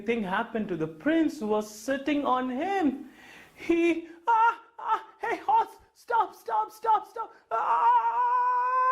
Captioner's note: shouted